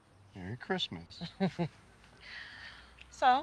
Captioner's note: Colleen chuckles